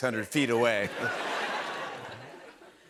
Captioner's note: laughter